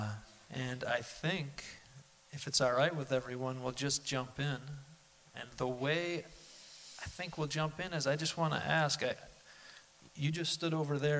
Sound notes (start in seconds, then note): none